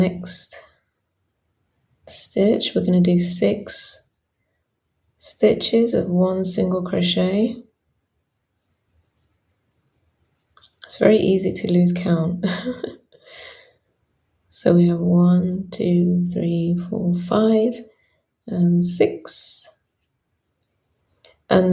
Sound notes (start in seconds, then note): 12.4 chuckles